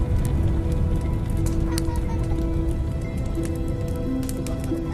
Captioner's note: laughter